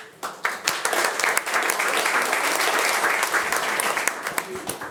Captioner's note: attendees applauding